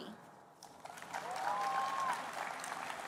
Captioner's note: applause